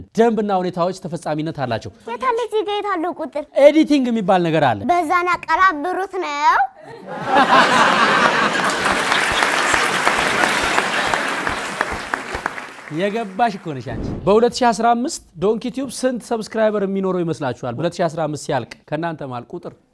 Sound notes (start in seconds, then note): 6.9 laughter and applause